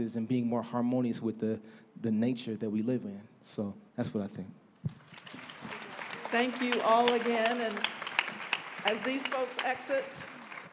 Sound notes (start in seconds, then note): 4.9 applause